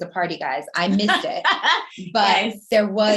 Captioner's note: laughing